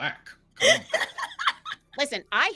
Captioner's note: laughing